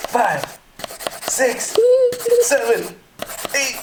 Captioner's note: giggles